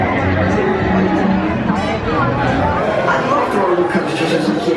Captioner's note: people chattering